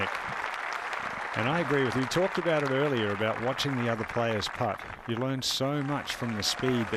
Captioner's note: cheers and applause